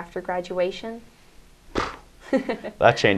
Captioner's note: laughs and Nathan reacts with a "puff" sound